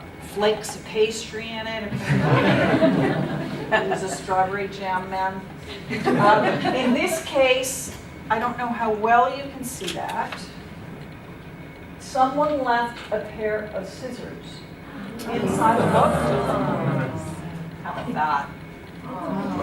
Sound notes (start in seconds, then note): 1.9 laughter; 5.8 laughter